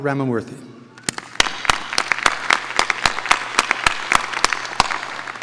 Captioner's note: audience applauding